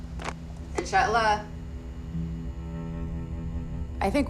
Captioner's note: speaking foreign language